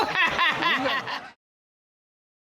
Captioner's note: laughing